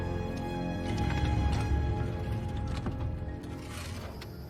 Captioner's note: doooor opening